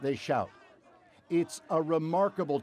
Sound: chanting

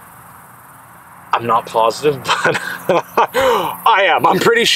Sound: laughs

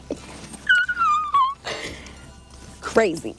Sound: screams

